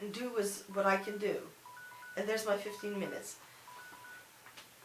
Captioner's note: the alarm goes off